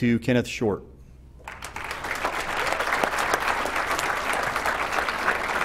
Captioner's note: applause